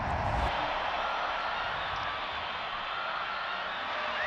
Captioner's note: crowd cheering